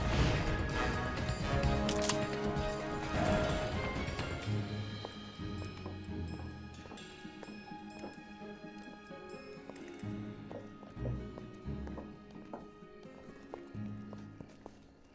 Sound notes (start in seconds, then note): 1.6 lopper snipping; 5.4 light upbeat music